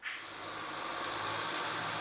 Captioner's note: motor rattling